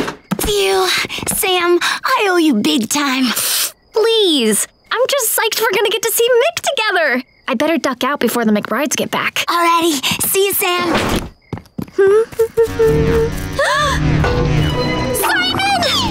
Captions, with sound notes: Phew, Sam I owe you big time. Pfft, please. I'm just psyched we're gonna get to see Mick together. I better duck out before the McBrides get back. Alrighty, see you Sam. [humming] [gasping] Simon!